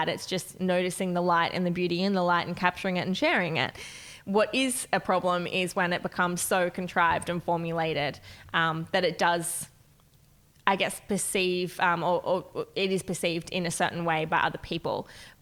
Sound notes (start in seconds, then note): none